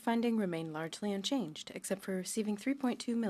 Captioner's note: speaking French